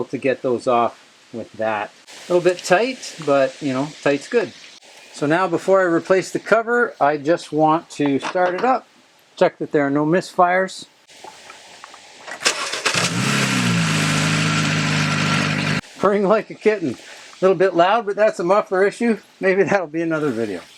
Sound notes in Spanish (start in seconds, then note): 12.4 Sonido del motor